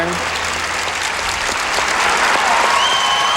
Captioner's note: applause